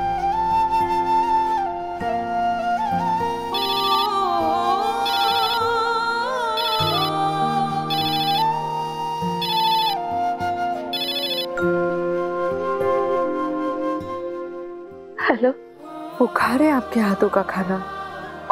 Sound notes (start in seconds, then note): 3.3 mobile ringing